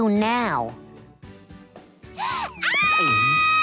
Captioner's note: shrieks